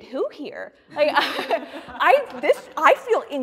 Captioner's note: all laughing